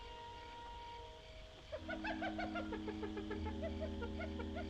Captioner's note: hyena Chattering